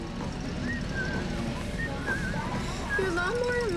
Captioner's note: whistling